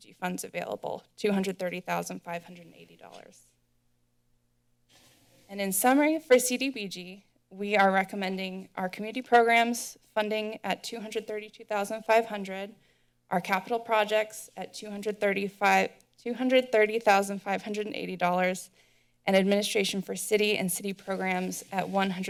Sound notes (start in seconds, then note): 3.8 silence; 4.9 rustling sound